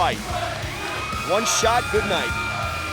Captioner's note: crowd cheering